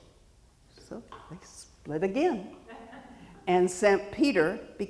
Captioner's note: audience member chuckles